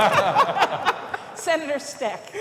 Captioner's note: laughter